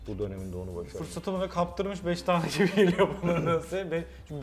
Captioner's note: laughsI